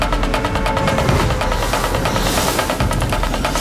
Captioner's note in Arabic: صوت هواء مندفع